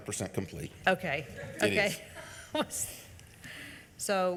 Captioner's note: laughs